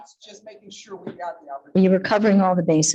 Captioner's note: faintly speaking